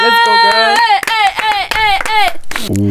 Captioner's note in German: Jubel, Applaus